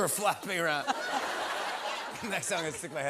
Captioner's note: laughter